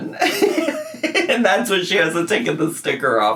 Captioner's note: laughs